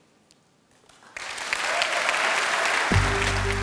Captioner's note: applause